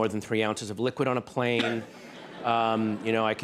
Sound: laughter

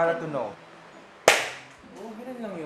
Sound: clap

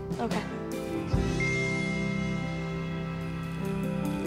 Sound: phone dings

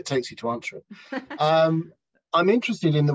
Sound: laughs

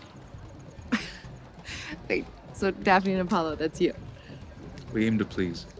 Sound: laughs

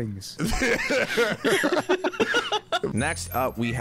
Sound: both laughing

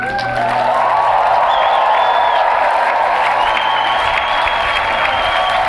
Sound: applause

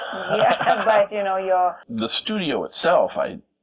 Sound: laughter

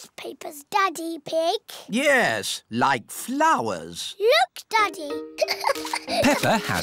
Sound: giggles

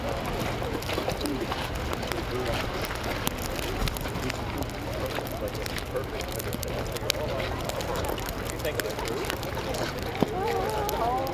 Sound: muffled applause; general chatter

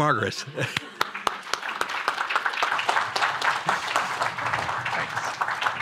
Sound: applause

